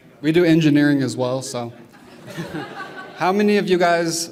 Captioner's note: laughter